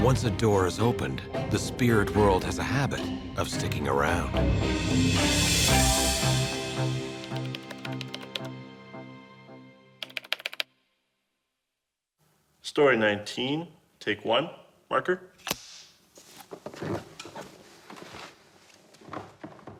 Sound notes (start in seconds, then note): 7.3 typing